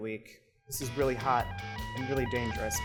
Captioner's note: alarm ringing